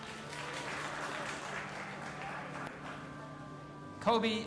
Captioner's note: audience applauding